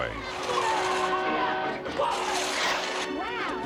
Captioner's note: horn honking; shouting